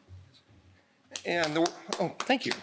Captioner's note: applause